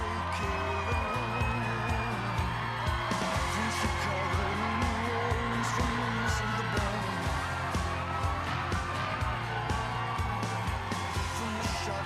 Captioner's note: applause